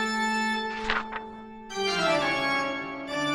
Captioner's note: page turns